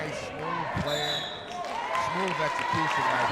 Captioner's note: referee whistling